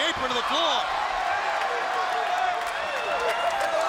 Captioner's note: crowd reacts